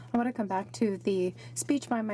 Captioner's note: speaking French